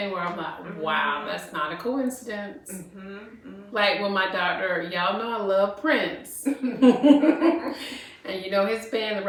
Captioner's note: laughter